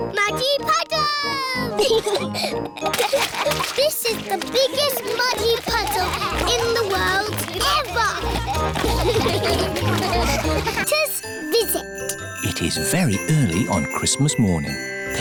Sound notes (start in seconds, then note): 1.8 both giggling; 7.4 all giggling; 9.1 all laughing